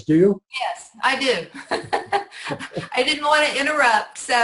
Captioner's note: laughs